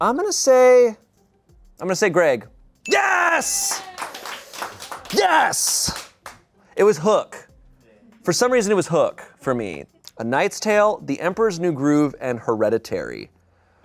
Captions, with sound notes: I'm gonna say Greg. (bell dings) Yes, yes! (people applaud) It was Hook. For some reason, it was Hook for me. A Knight's Tale, the Emperor's New Groove, and Hereditary.